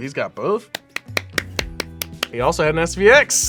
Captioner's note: claps